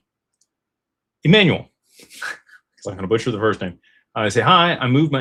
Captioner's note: snorts